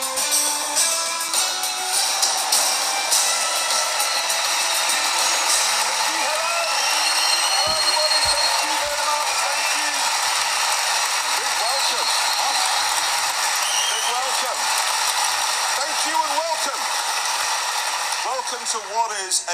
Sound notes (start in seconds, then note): 10.0 crowd Cheering; 12.8 crowd Still Cheering; 17.1 crowd's Cheering Quietens Down